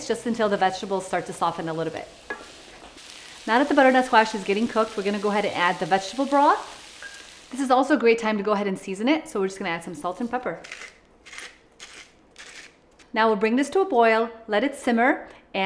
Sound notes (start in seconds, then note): 11.8 grinder grinding